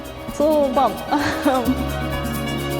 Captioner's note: chuckles; lively orchestral music